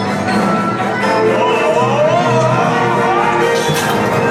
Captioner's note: screams